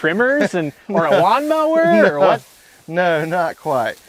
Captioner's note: chuckles